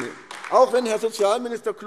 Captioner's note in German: Beifall AfD